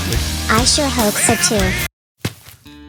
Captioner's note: footsteps